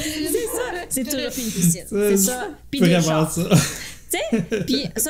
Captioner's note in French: rires